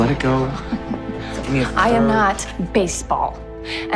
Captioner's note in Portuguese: rindo de nervoso